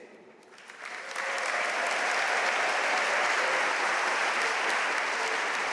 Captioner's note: audience cheering and applauding